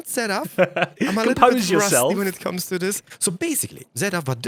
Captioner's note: laughs